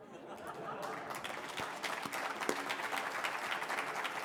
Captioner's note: applause